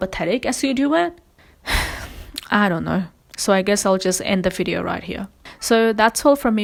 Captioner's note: sighs